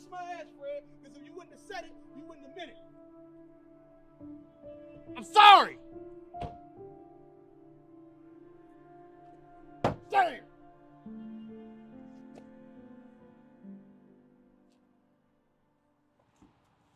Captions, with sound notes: - Nah kiss my ass Fred. Cause if you wouldn't have said it, you wouldn't have meant it. - I'm sorry! (car door slams) (hits fist on car) Damn!